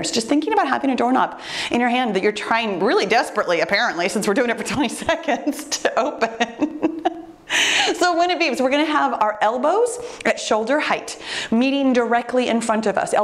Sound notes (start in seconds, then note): 6.1 laughs